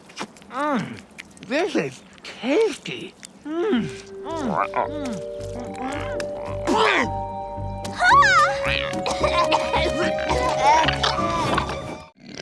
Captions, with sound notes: Mm. This is tasty. Mm. [croaking] [coughing]